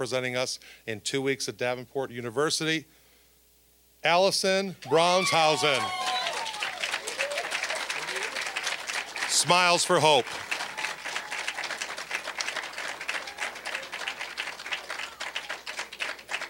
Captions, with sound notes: WILL BE REPRESENTING US IN TWO WEEKS AT DAVENPORT UNIVERSITY... ALLISON BRAUNSHAUSEN! (applause, cheering) "SMILES FOR HOPE." (applause)